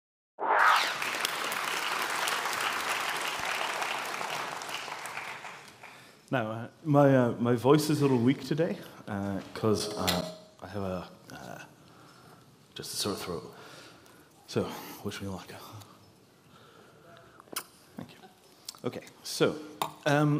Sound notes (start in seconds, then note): 0.8 applause